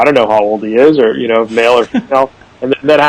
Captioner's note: chuckles